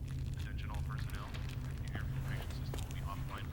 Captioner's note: man On PA